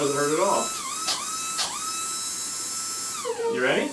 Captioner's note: brush whirring